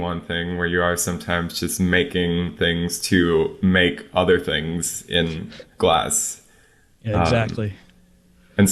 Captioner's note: laughs